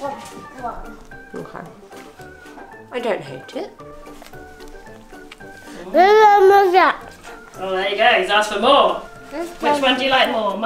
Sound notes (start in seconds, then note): 5.8 babbles